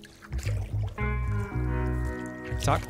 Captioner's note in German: Plätschern